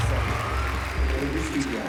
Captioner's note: cheers and applause